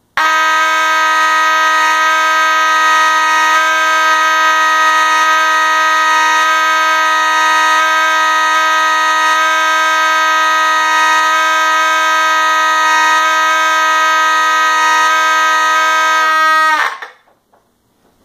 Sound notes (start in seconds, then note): 0.2 constant, harmonized horn sound; 12.0 horns are still sounding; 17.0 silence